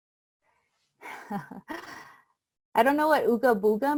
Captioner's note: chuckling